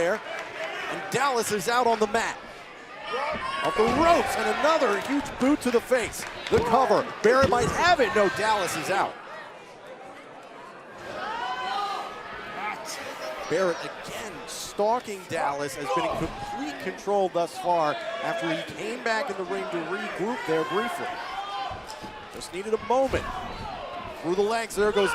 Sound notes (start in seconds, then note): 12.0 crowd chatter